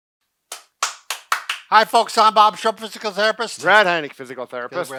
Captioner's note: claps